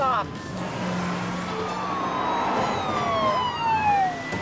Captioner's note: sirens wailing